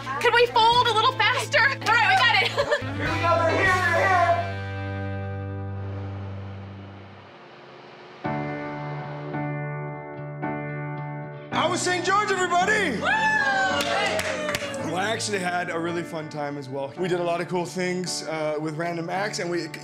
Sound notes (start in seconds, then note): 7.7 car engine; 12.8 cheers